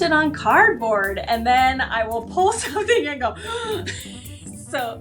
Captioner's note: inhales heavily